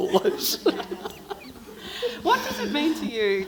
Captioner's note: everyone laughing